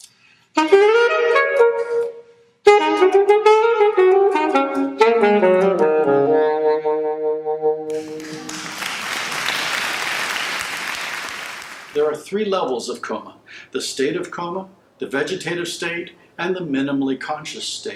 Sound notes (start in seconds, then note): 0.1 elaborate saxophone solo; 7.9 audience clapping